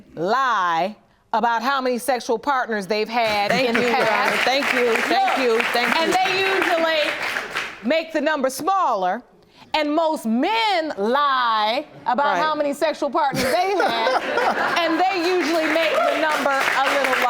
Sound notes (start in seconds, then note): 3.2 audience applauding; 11.0 laughing